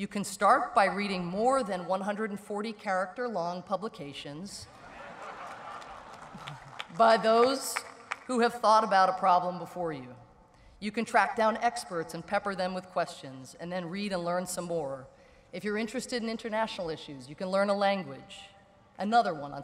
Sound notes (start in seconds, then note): 4.7 laughter